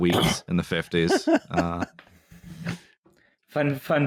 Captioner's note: laughs delightfully